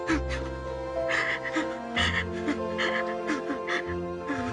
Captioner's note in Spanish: Sollozos